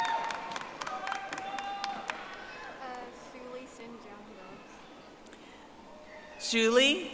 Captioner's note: audience applauding